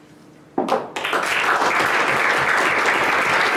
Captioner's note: applause